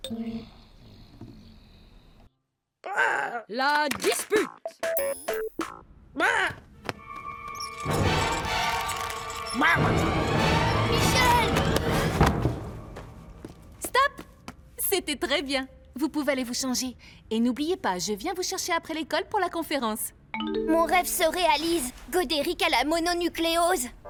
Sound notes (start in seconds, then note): 4.9 applause